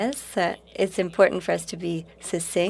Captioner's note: speaking French